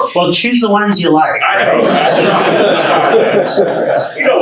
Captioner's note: audience laughs